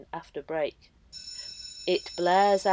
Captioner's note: bell rings